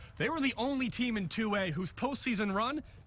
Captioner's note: none